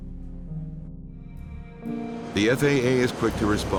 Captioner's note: sweeping music; jet whooshing